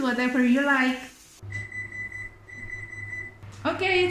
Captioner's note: beep beep .. oven sound